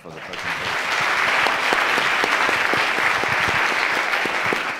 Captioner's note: audience clapping